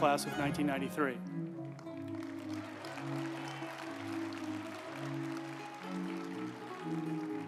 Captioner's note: uplifting music; group applauding